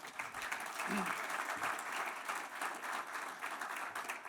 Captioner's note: audience applause